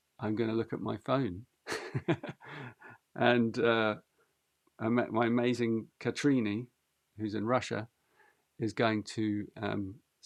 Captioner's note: laughs